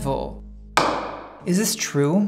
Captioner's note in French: bong